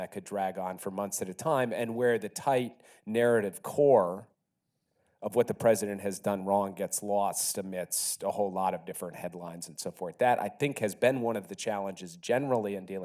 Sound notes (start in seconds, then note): none